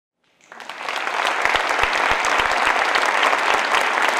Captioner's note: audience clapping